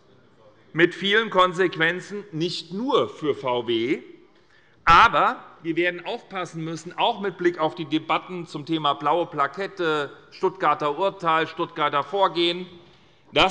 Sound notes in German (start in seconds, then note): none